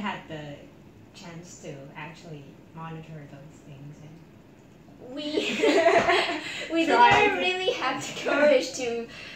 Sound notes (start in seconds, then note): 5.2 laugh